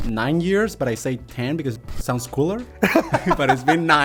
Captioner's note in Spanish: Risas